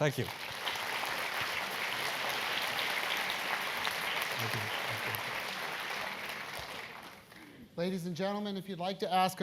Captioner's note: applause